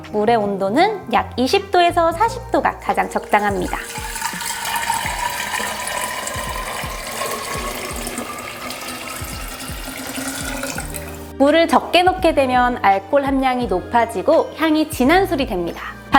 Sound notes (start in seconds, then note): 2.9 pouring water